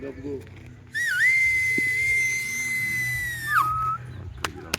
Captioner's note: loud whistle; clapping